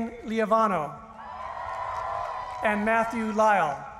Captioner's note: cheering